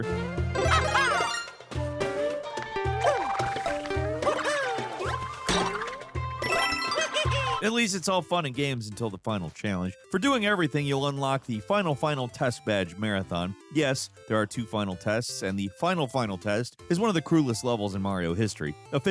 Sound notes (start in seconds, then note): 0.0 triumphant music; 0.6 Mario laughing; 1.8 intriguing orchestral music; 5.0 Mario boings; 6.4 coins chiming